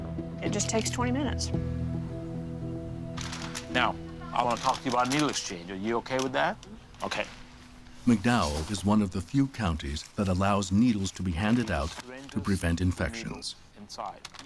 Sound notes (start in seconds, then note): none